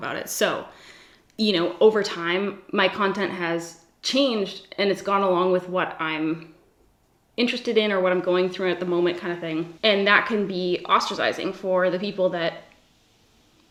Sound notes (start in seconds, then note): none